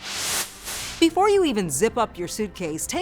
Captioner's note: swooshing